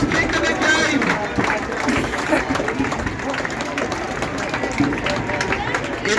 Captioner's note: applause